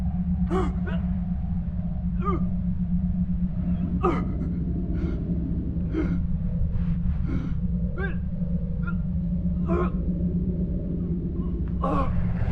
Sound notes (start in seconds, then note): 2.0 coughs; 5.7 gasps